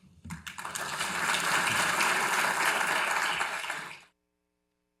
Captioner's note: audience applauds